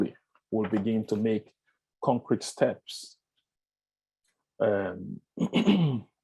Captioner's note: clears throat